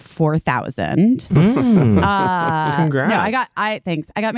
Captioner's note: bowen laughing